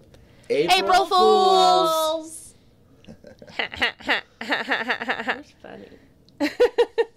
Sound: laughs and giggles

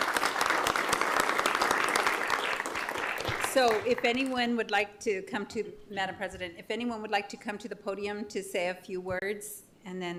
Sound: applause

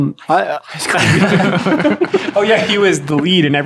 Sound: laughs

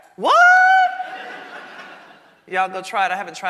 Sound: audience laughing

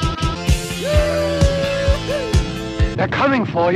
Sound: cheerful Texan noises

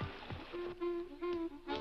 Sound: sticks crackling

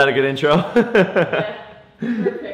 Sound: laughs

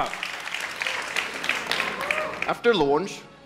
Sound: cheers and Applause Continue

